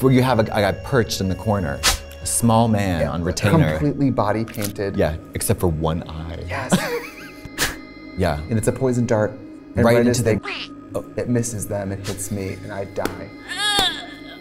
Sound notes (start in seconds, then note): 8.6 blowing dart; 13.3 Katya laughing